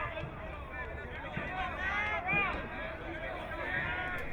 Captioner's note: crowd cheering